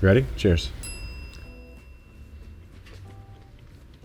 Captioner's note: bell chimes